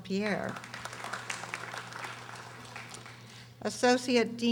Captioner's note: audience applauding